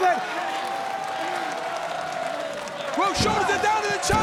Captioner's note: applause